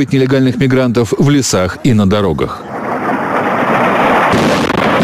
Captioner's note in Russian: Звук взрывов